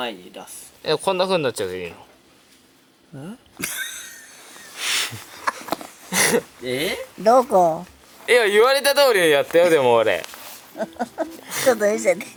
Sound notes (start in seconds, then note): 10.7 laughs